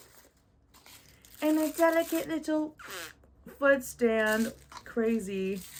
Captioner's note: blows Raspberry